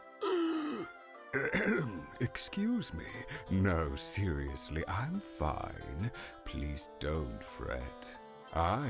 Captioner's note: cough